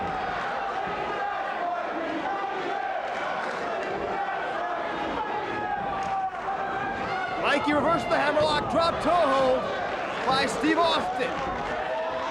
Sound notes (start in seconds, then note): 0.6 audience chanting and clapping